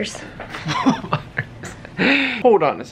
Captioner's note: chuckles